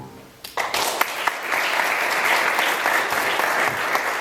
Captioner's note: audience applauds